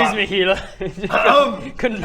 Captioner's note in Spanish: Ejem